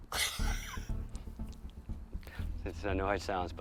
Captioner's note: man laughing